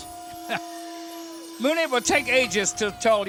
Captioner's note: chuckles